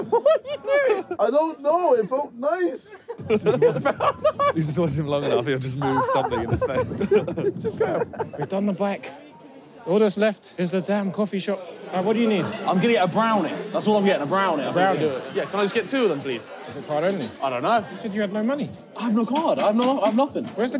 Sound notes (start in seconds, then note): 7.4 laughing